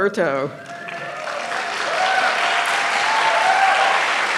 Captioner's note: applause